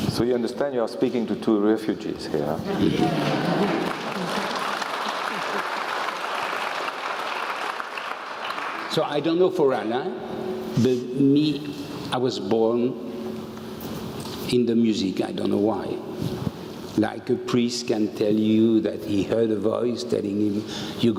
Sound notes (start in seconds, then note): 3.0 applause